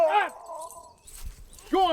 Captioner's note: moans in pain